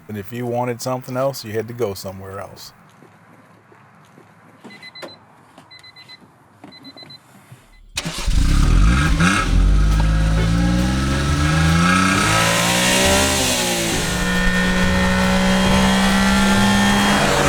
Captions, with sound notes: And if you wanted something else, you had to go somewhere else. [Car Beeping] [Engine Starts] [Engine Revs Loudly, Calm Music]